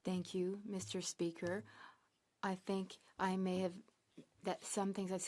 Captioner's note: speaking French